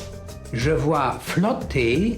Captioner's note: non-english speech